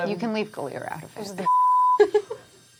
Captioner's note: beeping